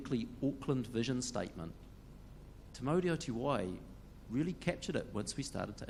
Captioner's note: speaks in foreign language